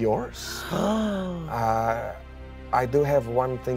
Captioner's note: gasps